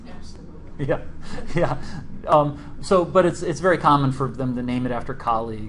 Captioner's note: laughs